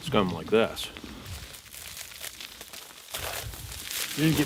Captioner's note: leaves crunching